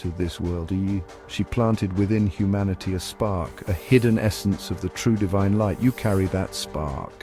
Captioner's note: spark